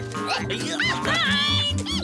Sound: grunts of effort

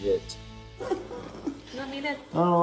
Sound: whimper

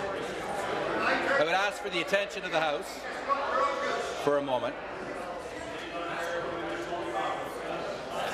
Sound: conversation din

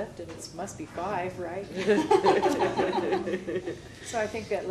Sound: laughter

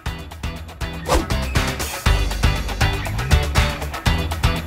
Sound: upbeat music; whooshing

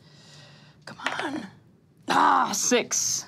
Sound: dice clatters

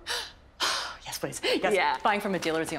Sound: sighs

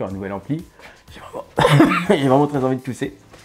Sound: cough

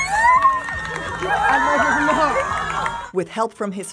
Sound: cheering

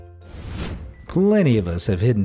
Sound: air whooshing

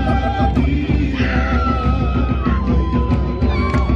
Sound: laughing; hawaiian music playing

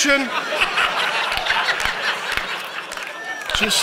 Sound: audience laughing

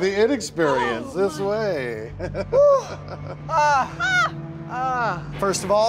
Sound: reactors exclaim in relief; chuckles

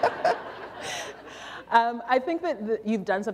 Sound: laughter

